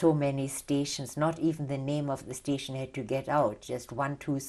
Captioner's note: none